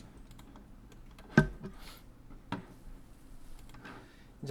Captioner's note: silence